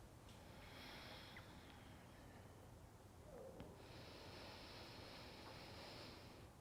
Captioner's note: breathing